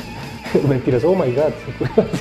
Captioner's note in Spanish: Risas